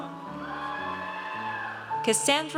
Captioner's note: audience cheers